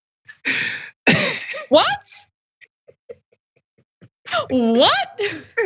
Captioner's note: laugh